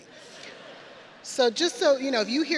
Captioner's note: audience laughing